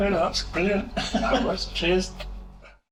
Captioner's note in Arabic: يضحك